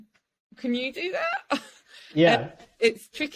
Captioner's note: chuckles